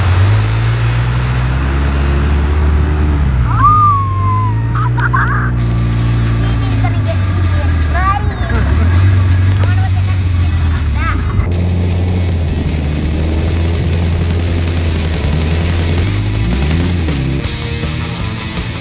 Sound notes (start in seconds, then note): 3.5 laughter and screams